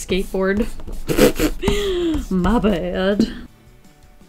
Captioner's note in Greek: Γέλια